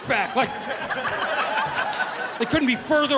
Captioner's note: audience laughing